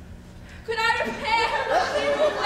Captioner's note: audience laughs